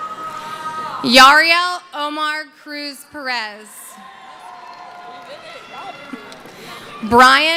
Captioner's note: cheering